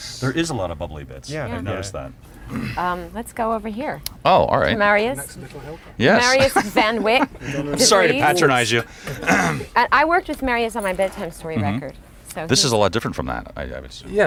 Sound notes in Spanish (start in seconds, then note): 6.2 laughs